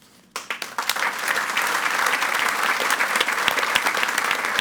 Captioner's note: audience applauds